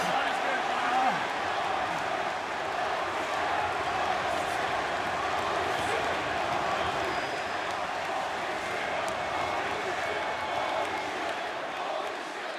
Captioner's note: crowd cheering